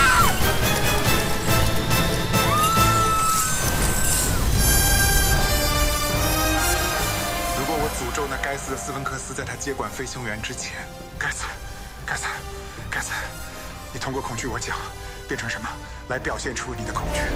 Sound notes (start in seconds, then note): 0.4 chain scraping; 1.8 music crescendo; 4.1 fire explosion; 4.8 whirlpool roar; 6.5 drone hum